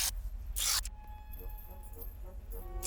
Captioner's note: buzz